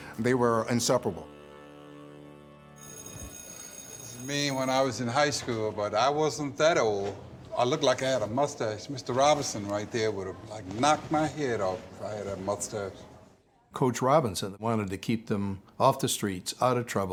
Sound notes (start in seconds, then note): 2.8 bell ringing